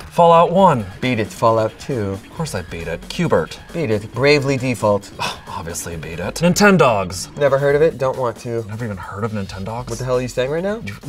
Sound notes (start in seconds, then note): 4.8 sighs